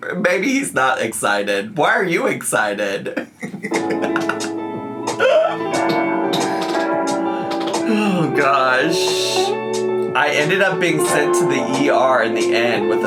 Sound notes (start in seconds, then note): 3.0 laughs